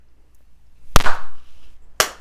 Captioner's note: claps